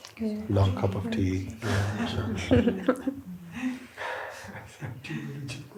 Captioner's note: laughter